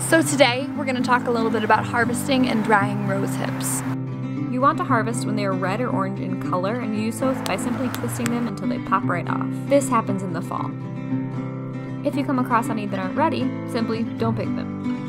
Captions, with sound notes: (soft guitar) So today, we're gonna talk a little bit about harvesting and drying rose hips. You want to harvest when they are red or orange in color and you do so by simply twisting them until they pop right off (pop, pop, pop). This happens in the fall. If you come across any that aren't ready, simply, don't pick them.